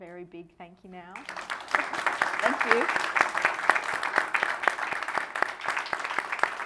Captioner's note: audience applauding